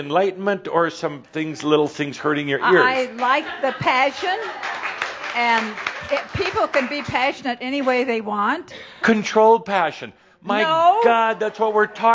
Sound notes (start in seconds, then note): 3.7 some applause